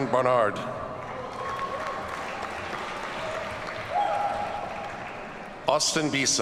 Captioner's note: audience cheers and applauds